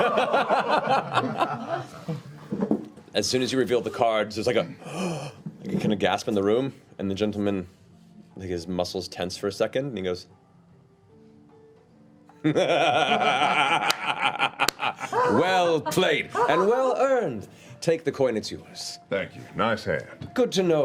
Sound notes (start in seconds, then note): 0.0 laughter; 4.8 gasp; 12.5 laughs